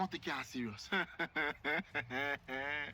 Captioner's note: laughs